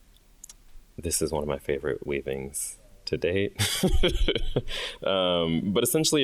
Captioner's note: chuckles